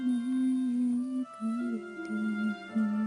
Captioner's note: vanessa humming a song